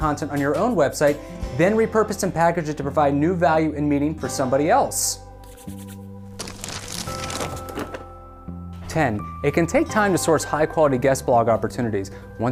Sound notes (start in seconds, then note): 6.3 paper crackling; 6.4 hands swishing